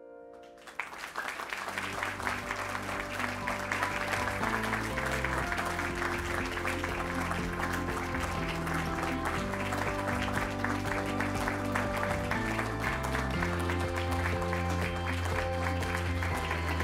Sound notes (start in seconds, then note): 0.9 crowd applauding